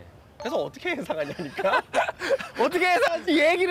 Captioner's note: awkward laugh